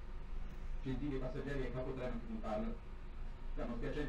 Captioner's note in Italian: dagli altoparlanti